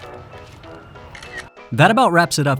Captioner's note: camera clicks